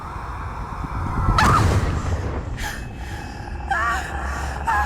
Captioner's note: loud boom; gasp